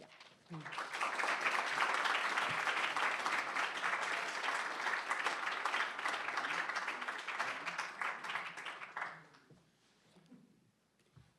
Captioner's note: audience applauds